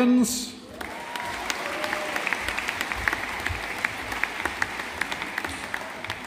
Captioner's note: audience applauding